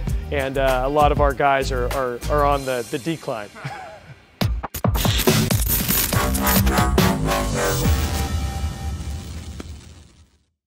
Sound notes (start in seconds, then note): 3.5 laughs softly; 4.4 upbeat electronic music